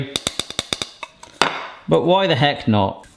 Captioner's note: bowl tapping